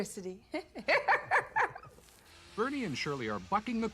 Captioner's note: laughs